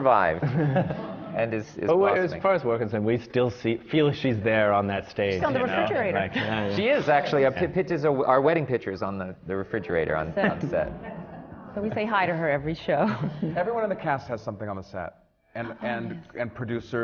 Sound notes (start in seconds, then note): 10.4 laughter and murmurs from the audience; 13.1 laughs